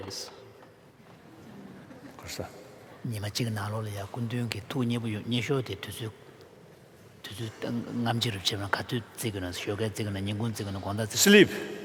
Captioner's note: laughter; foreign Language